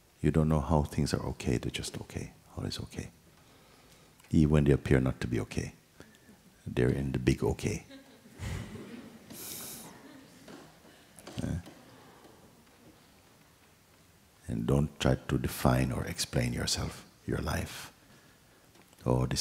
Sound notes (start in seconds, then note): 7.8 laughter